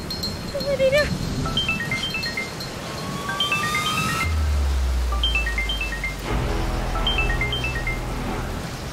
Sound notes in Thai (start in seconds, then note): 1.4 เสียงโทรศัพท์